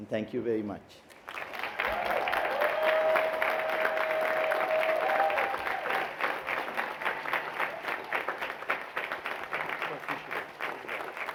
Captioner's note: applause